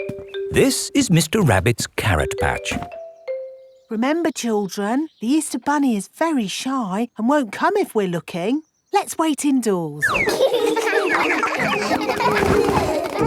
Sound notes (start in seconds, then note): 10.1 all giggling